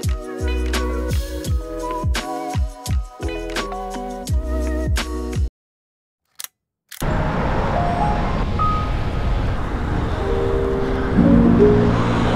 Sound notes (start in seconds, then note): 6.3 camera clicks